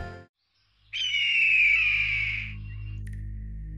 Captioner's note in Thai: เสียงนกร้อง